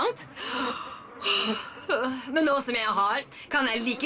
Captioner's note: yawns